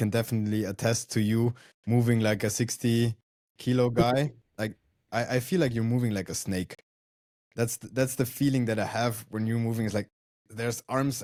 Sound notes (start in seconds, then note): 4.7 laughs